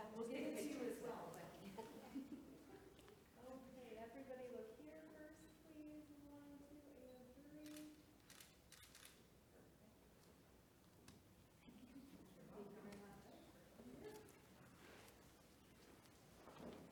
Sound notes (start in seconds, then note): 1.4 staff laughing; 8.2 camera shuttering; 11.6 people chattering